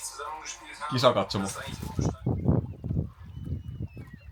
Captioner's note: German speech